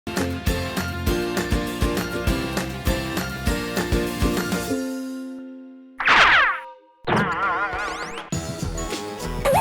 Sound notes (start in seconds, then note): 0.1 cheerful music; 6.0 objects zooming